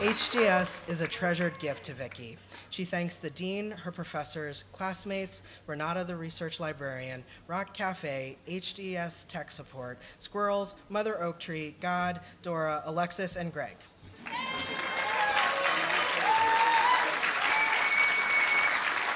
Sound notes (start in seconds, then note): 14.2 applause